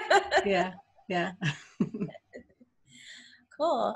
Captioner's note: laughs